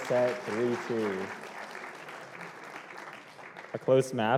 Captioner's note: applause